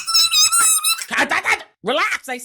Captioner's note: squeaking